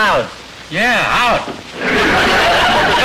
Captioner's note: audience laughter